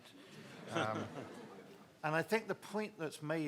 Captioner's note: people laughing